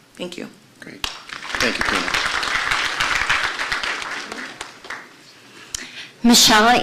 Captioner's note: applause